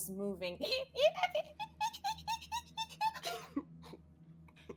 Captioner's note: chirping